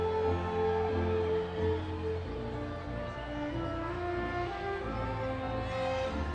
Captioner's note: audience continues cheering